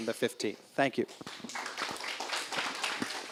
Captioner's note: applause